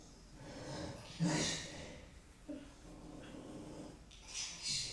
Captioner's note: person breathing heavily